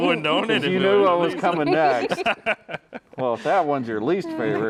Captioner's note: both laughing; all laughing